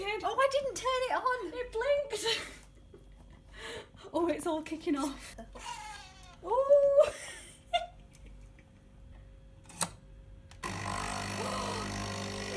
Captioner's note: laughter